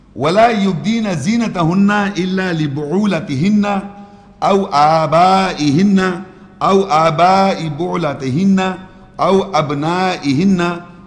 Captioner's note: Arabic